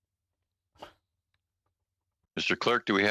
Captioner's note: speaking French